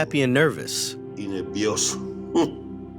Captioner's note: through translator; speaking Spanish